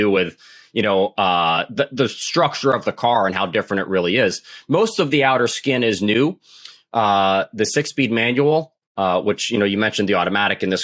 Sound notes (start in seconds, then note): none